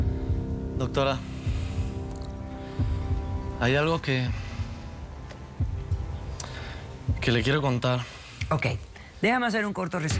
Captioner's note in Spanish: exhala